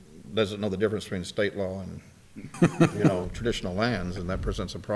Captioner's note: laughs